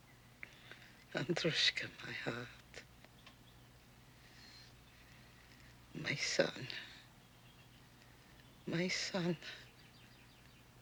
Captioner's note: russian